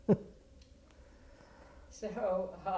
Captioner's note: laugh